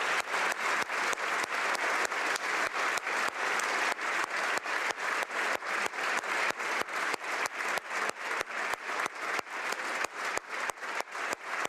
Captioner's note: applause